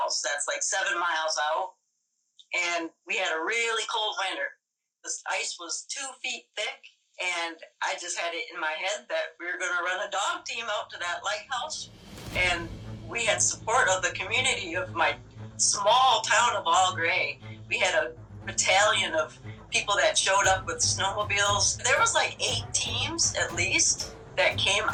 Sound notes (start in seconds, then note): none